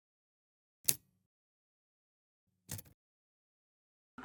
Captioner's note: typewriter key clicks